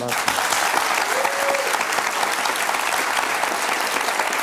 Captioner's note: audience applauds